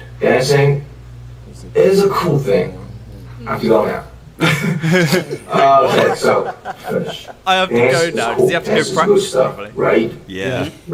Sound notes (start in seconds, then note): 4.3 awkward laugh